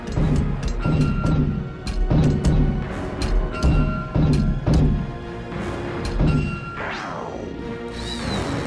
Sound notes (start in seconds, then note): 4.2 door open close